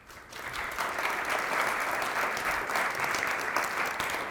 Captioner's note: audience applauding